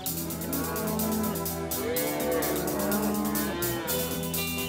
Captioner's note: mooing